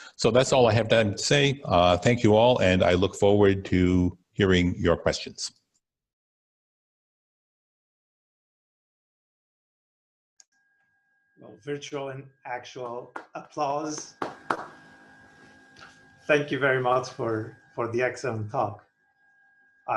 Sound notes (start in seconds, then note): 13.8 attendees clapping